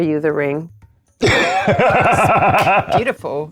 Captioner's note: laughing